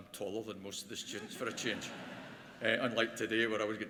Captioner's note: laughter